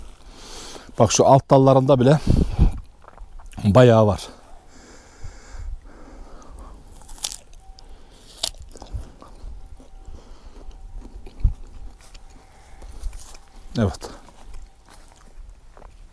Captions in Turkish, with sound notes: Bak, şu alt dallarında bile bayağı var. [Isırık sesi]